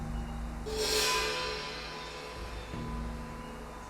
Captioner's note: gong chimes